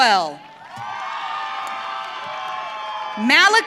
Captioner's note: audience cheering